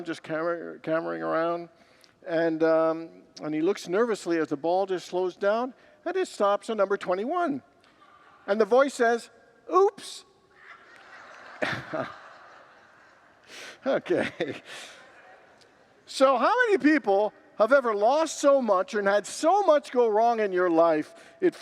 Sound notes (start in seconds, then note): 10.5 congregants laugh